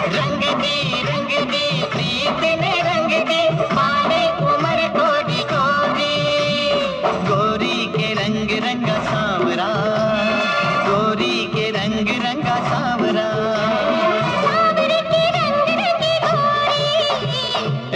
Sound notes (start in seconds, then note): none